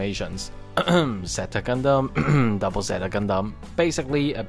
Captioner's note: cough cough